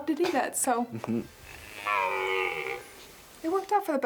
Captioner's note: stag bellowing